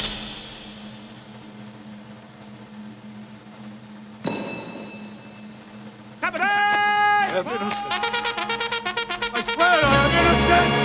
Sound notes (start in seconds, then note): 2.6 drumroll; 4.0 clanks; 7.8 band music playing